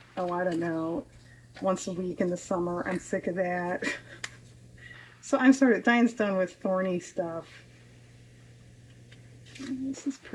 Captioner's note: laughs